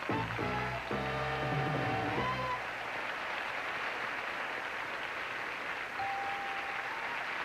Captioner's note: audience applauding